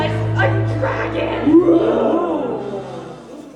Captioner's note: roar